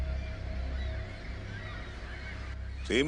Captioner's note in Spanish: Canto de gaviotas